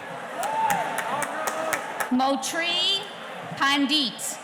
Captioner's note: clapping